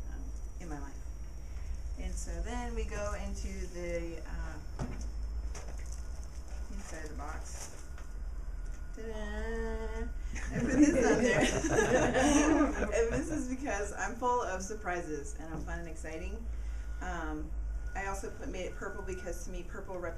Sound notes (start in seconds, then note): 10.4 laugh